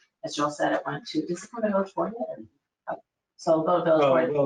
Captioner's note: speaking faintly